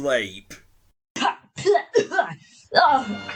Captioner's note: choke! gag! ptooie!